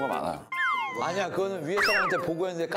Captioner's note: disappointed